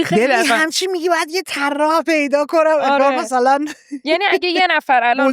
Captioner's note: laughs